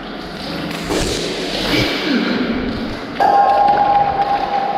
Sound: water splashes

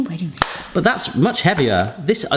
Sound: box snapping shut

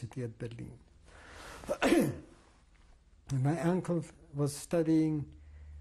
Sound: pauses for 3 seconds

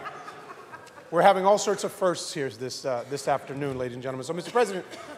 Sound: laughter

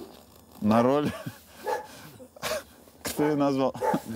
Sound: both choke up laughing

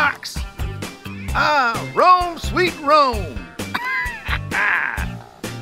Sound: laughs

